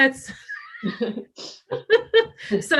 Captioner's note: laughter